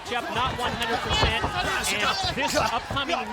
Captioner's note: wrestlers clamoring; footsteps plodding